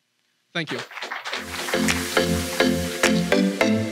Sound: clapping

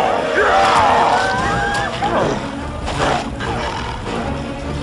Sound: Ben yelling; growling, grunting

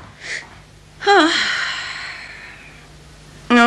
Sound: the girl sighs

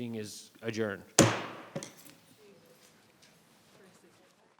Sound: gavel hammer bangs

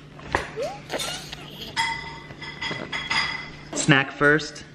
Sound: giggles

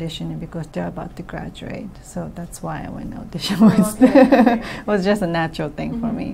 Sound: laughs

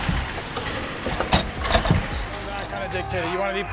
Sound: hockey stick hitting floor

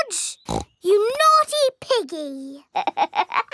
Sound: snorts; laughs

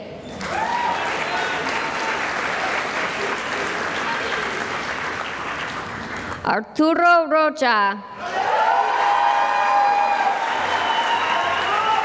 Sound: cheering and applause

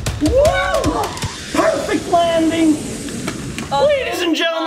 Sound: cheers

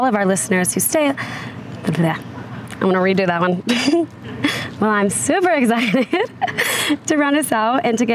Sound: laughs

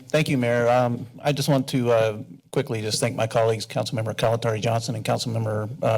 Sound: none

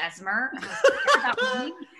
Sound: laughter

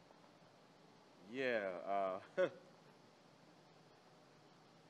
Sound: laughs

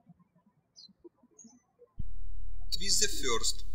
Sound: birds chirping

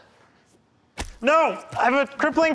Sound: splat

